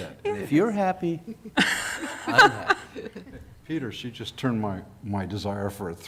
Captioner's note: laughter